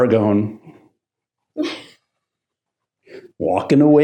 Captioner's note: chuckles